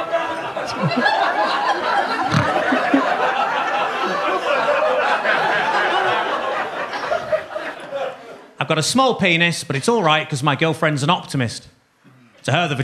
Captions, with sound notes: (Gary snorting) I've got a small penis, but it's all right, because my girlfriend's an optimist.